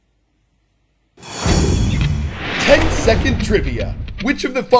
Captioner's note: voice-over